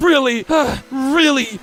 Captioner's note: sigh